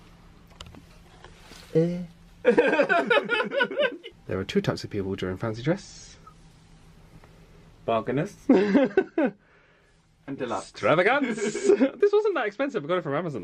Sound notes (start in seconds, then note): 2.4 laughs